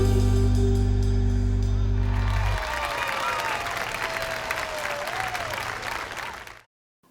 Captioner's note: applause